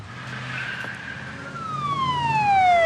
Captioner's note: siren wails